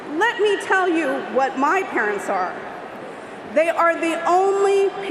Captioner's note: crowd noise